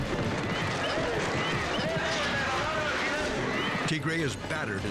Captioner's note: announcer shouting in foreign language